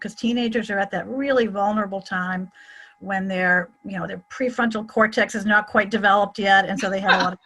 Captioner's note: someone laughs